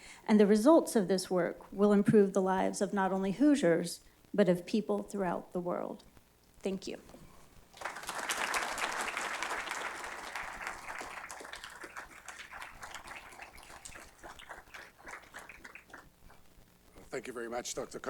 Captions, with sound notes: and the results of this work will improve the lives of not only Hoosiers, but of people throughout the world. Thank you. [ Applause ] >> Thank you very much, Dr. Connelly.